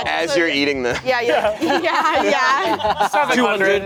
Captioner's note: everyone laughing